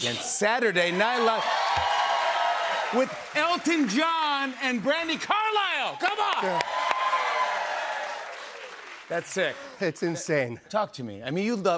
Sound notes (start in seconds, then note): 1.4 cheers and applause; 6.6 cheers and applause